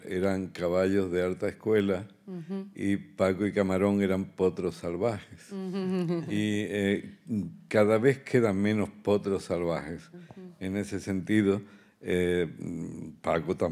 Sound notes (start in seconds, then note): 0.3 continues in Spanish; 5.6 laughs; 8.2 continues in Spanish